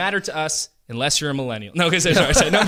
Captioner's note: laughter